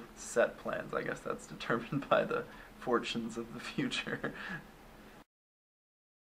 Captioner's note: laughs